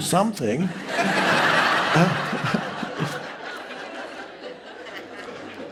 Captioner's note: audience members laughing